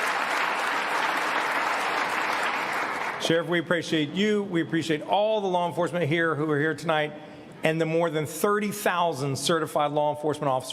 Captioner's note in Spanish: aplausos